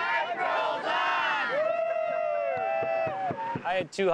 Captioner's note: cheering